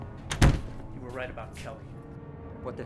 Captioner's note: door slams shut